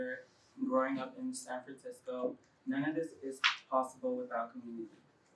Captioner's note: applause